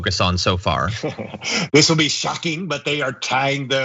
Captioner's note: laugh